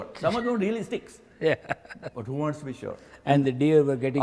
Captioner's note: laughs